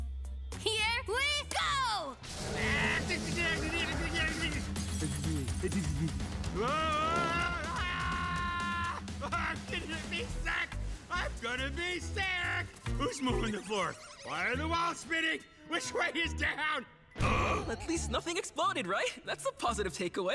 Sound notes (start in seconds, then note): 2.4 pained screams; 4.6 shivering; 6.5 panicked screaming